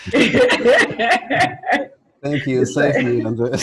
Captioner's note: laughs